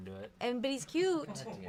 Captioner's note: off-camera laughing